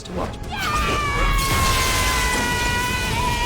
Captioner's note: yelling